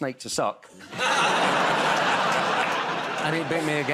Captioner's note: laughter